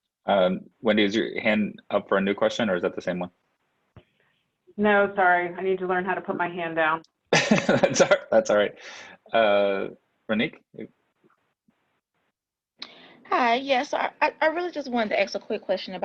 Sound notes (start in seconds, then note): 7.4 laughs